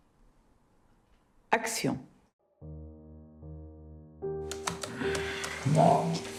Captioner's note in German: Gespräch im Film